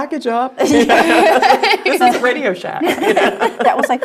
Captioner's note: laugh